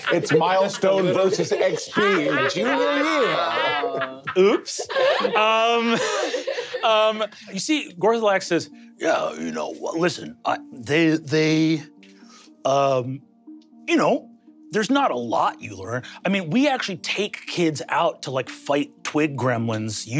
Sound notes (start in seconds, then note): 5.2 players laughing